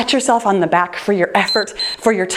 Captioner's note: timer beeps